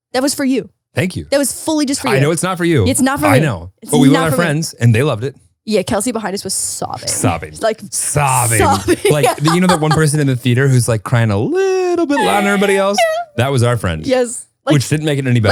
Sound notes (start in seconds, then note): 8.2 laughs